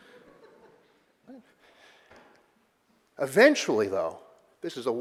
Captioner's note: audience chuckling